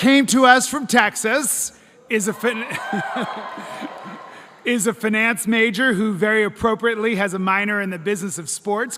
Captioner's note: applause